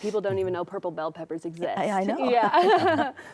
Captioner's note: laughs